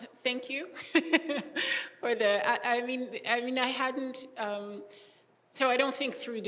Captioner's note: laughing